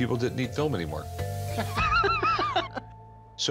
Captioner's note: both laugh